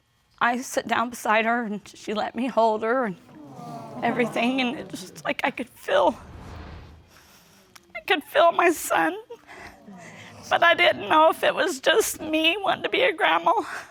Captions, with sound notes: I sat down beside her, and she let me hold her and everything, and it's just like I could feel... (TEARFULLY) I could feel my son. But I didn't know if it was just me wanting to be a grandma.